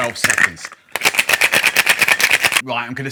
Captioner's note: cocktail shaker clinking